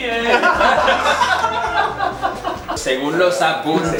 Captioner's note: laughs